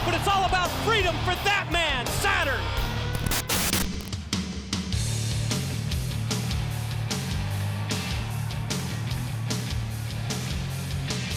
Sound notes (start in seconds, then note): 3.0 TV static; 5.5 rock music